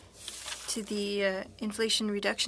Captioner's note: speaking french